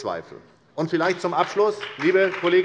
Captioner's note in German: Beifall bei der SPD